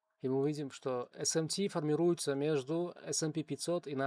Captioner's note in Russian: none